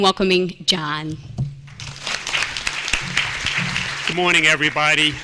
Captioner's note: applause